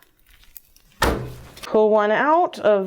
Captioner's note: cutter thuds